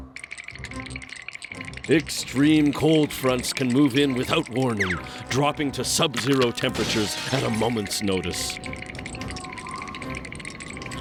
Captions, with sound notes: (both shivering) EXTREME COLD FRONTS CAN MOVE IN WITHOUT WARNING, DROPPING TO SUB-ZERO TEMPERATURES AT A MOMENT'S NOTICE. (wind whistling)